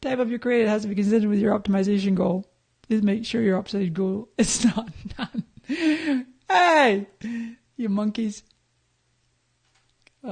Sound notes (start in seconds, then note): 4.6 laughing